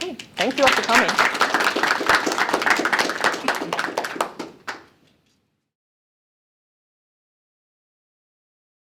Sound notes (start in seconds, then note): 0.1 applause